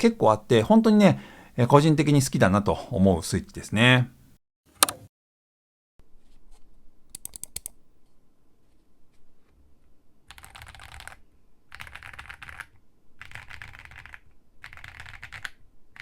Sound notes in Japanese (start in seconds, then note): 5.6 打鍵音チェック中; 14.6 打鍵音チェック中